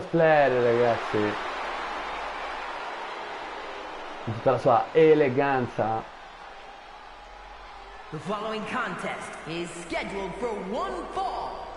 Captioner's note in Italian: Applauso